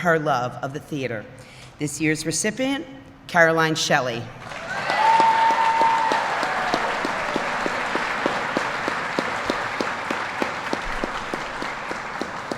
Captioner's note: applause